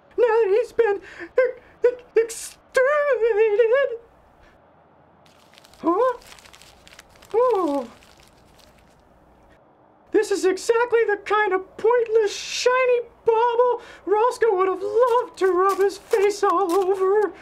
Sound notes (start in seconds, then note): 1.6 stutters